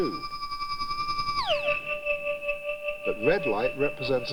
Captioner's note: resonating